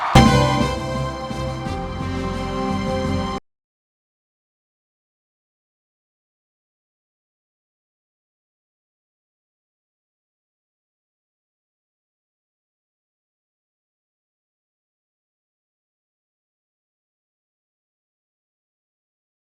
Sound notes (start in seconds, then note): 3.5 no audio